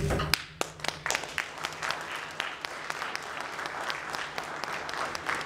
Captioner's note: audience applauding